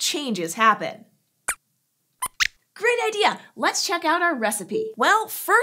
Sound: squeaks squeaks

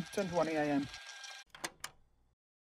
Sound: the tape ends and ejects

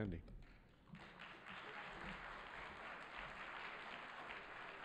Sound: audience applauding

